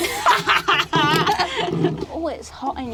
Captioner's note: cackling laugh